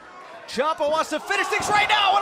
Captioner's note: crowd chatter